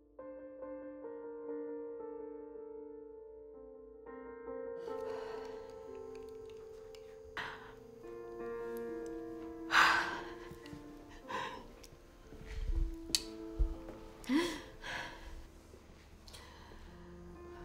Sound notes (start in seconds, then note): 0.2 melancholic music continues; 11.0 Kelly sighing